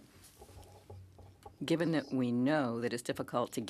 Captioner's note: speaking French